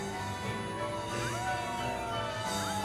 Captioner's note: howls